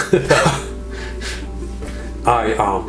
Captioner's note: laughing